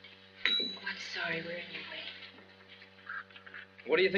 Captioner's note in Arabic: خادمة المنزل تدق الجرس